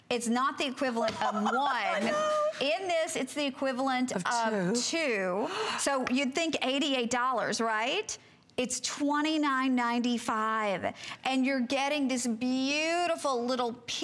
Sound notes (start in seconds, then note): 1.1 laughter